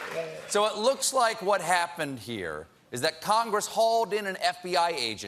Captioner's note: applause